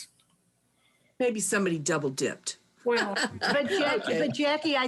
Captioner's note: laughs